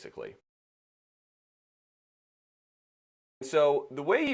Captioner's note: silence